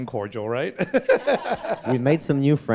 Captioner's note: laughter